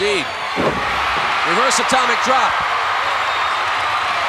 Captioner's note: audience cheering